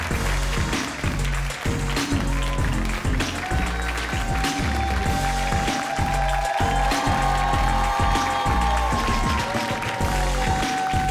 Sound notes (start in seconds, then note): 0.0 audience applauds; 0.3 upbeat music; 3.5 audience cheers